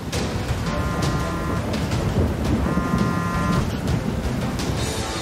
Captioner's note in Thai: เสียงโทรศัพท์